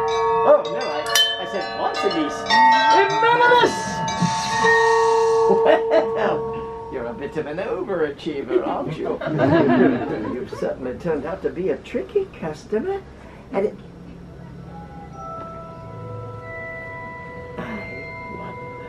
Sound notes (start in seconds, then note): 3.3 spell casting; 6.0 bells ringing; 8.5 laughter